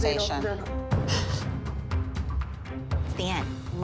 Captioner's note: crying